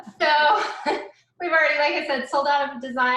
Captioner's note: laughing